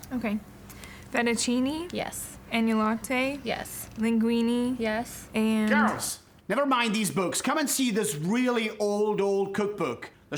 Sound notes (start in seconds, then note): 5.5 with Scottish accent